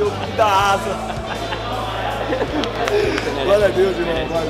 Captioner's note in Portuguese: risadas